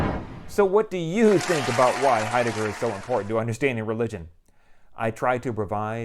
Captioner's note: appluase